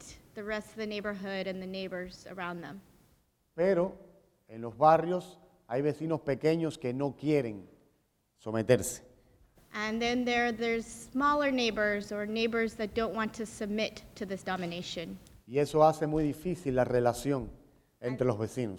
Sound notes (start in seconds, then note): 2.9 speaking in Spanish; 15.4 speaking in Spanish